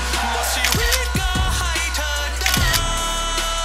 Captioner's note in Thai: เสียงชัตเตอร์กล้อง